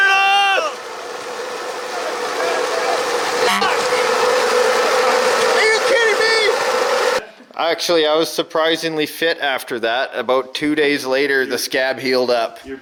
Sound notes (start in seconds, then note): 0.0 machines whirring; 3.4 horn honks